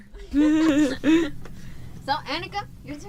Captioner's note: girls laughing